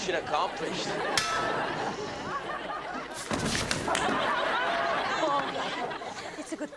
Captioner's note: fire extinguisher clanks